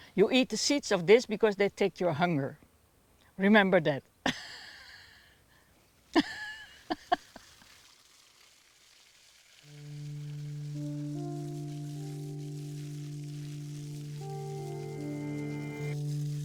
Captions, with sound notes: you eat the seeds of this because they take your hunger. Remember that. (laughing) (soft music)